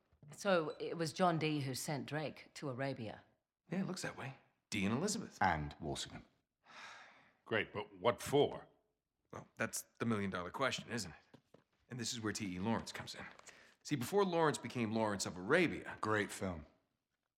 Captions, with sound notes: So, it was John Dee who sent Drake to Arabia? Yeah, it looks that way. Dee and Elizabeth. And Walsingham. (sigh) Great, but what for? Well, that’s.. the million dollar question, isn’t it? And this is where T.E. Lawrence comes in. See, before Lawrence became “Lawrence of Arabia”... Great film.